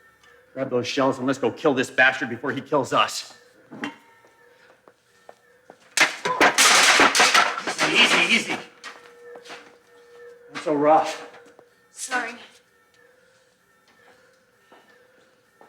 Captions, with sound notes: Grab those shells and let's go kill this bastard before he kills us. (Debbie grunts) Easy, easy, easy. Not so rough. - Sorry. (alarm wailing)